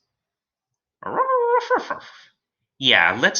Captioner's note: Alien Space Doggy barking